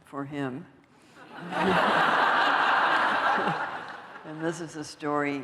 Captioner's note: laughter